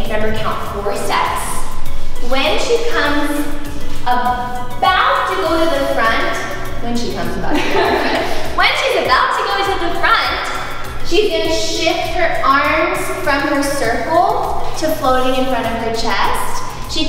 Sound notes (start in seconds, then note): 7.5 laughs